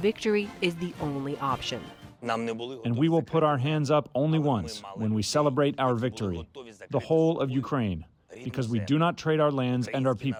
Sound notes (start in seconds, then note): 2.4 through translator